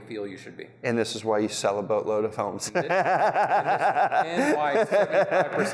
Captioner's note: laughs